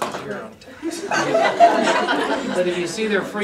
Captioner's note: audience laughter